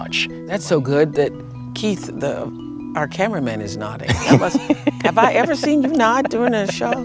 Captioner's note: laughter